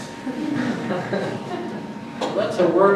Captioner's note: audience laughs